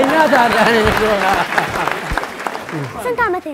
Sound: applause

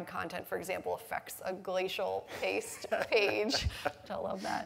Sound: laughs

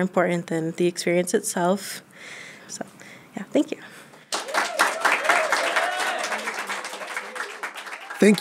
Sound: applause

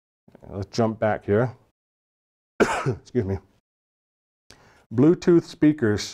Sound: cough

